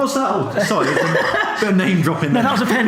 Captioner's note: laughs